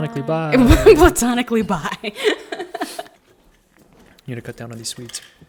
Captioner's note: laughing